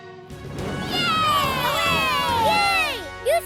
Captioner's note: cheering